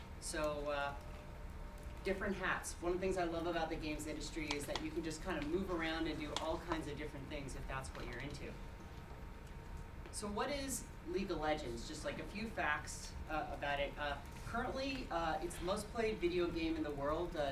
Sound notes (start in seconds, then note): none